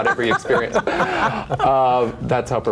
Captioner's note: laughing